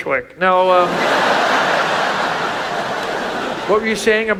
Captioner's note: audience laughs